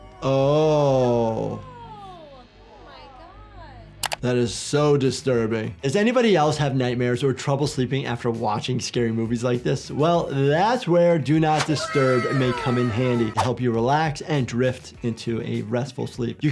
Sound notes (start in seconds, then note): 1.2 children exclaiming in awe